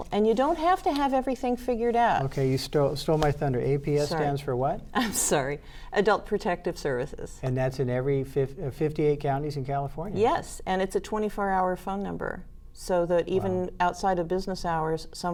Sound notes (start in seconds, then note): 3.0 pat